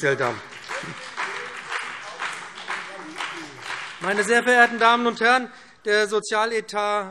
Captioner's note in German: Beifall BÜNDNIS 90/DIE GRÜNEN, vereinzelt CDU und SPD - Widerspruch AfD